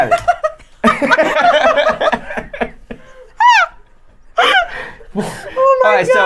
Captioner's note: laughing